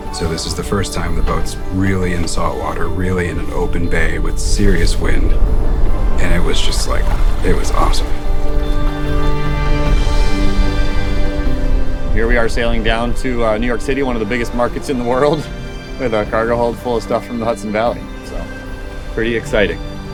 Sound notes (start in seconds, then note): 5.7 wind rushing; 9.0 water splashing